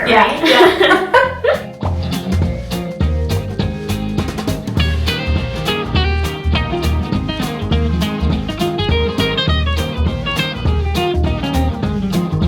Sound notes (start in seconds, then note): 1.9 laughs; 2.7 uptempo music